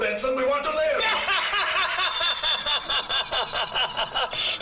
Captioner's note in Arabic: بينسون يضحك